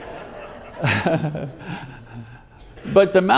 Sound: audience laughs

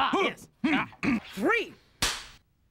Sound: clears throat; cracks pointer

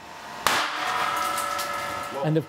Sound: glass tube bursts

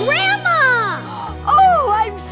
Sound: gasping

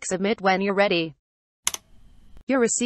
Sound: click sound

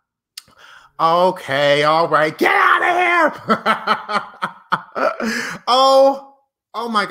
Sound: laughs

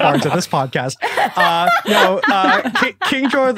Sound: others laughing

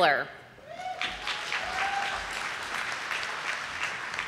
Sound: audience applauding

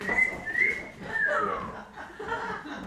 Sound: whistling

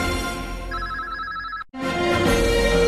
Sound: communication signals dialing; orchestral music plays

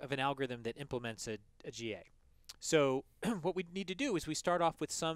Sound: cough

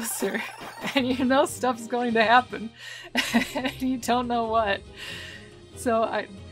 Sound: laughing

